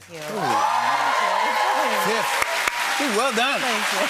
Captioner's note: cheering and applause